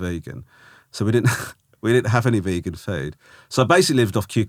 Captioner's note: Romesh laughing